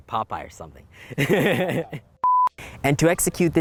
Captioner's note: laughs